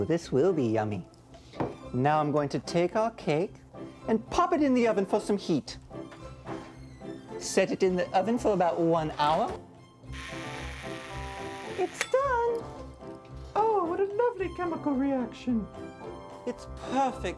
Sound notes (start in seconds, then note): 10.1 <i> timer buzzing</i>